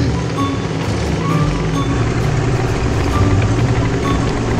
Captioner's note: engine roaring